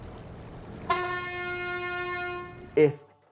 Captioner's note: horn sounding